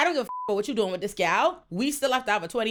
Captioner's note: beep